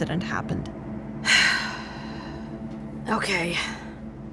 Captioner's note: sighing